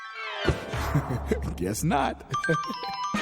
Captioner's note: chuckles